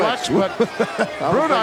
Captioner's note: hillbilly chuckling